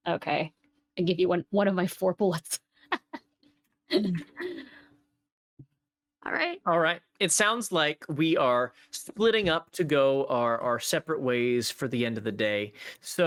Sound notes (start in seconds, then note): 3.3 players laughing